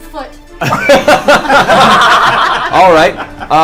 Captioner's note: all laugh